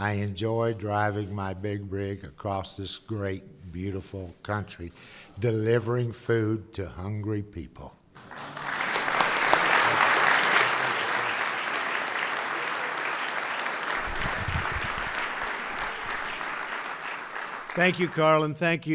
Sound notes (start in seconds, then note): 8.2 applause